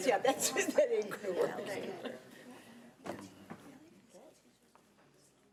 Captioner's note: chuckling